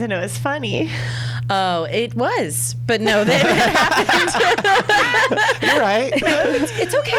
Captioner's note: laughs